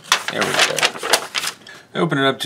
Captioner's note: paper rustling